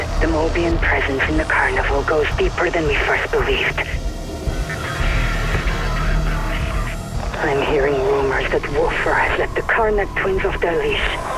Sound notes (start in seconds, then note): 4.1 mystical clattering mixes with almost inaudible musical undertones